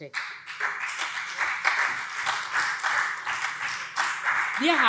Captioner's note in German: Beifall SPD